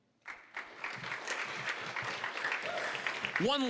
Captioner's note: applause